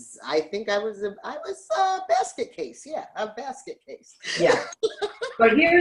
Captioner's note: laughs